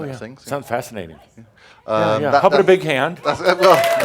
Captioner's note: audience applause